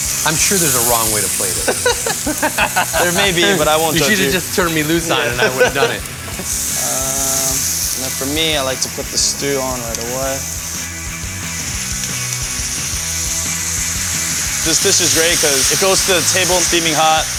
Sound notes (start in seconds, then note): 1.4 both laugh; 11.1 rock music